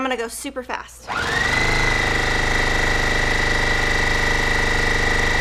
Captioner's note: sewing machine whirring